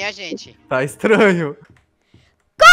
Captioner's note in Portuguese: rindo